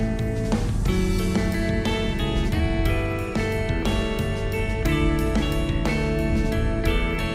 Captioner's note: trams